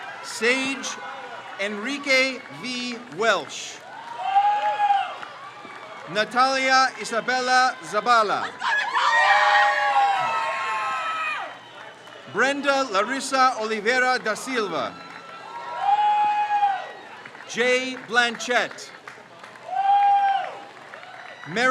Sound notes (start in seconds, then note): 0.0 crowd cheers; 4.0 crowd cheers; 8.8 crowd cheers; 14.9 crowd cheers; 19.2 crowd cheers